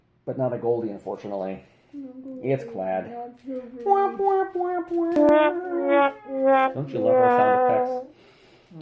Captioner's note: womp womp womp womp